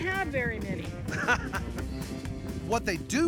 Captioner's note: chuckling